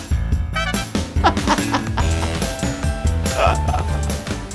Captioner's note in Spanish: riendo